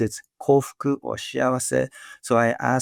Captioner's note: speaking Japanese